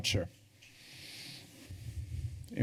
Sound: breaths deeply

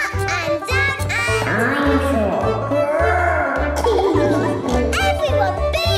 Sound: laughing

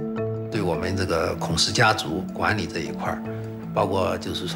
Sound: speaking Chinese

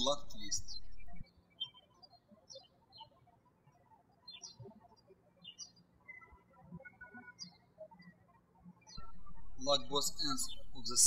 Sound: birds chirping

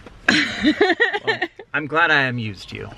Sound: giggles

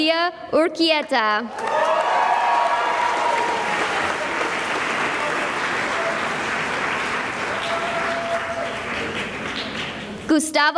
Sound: cheering and applause

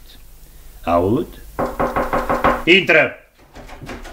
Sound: knocks on the door

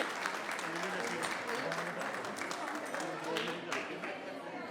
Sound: people chattering

